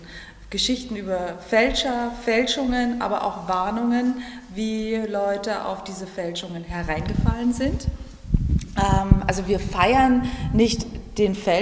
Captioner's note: German, 43 sec